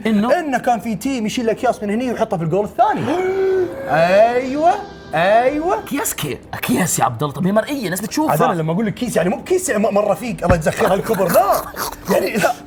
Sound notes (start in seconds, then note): 2.9 gasps; 10.5 laughing